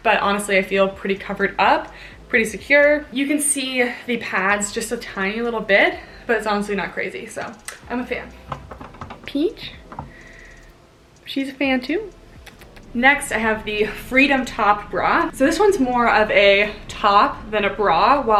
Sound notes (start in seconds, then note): 12.4 lips smacking